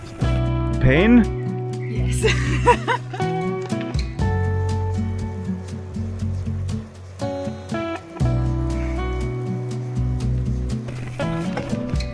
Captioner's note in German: gelächter